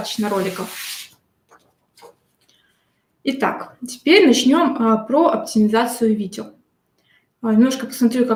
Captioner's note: шелест бумаги